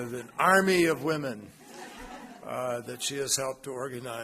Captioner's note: laughter